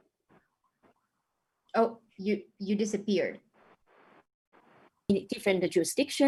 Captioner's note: audio skipping